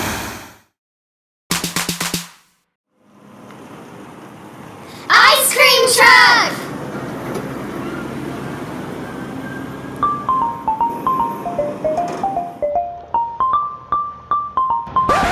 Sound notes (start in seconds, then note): 0.9 clapping; 3.9 truck sounds; 7.1 truck sounds; 9.9 ice cream truck music; 15.0 record scratch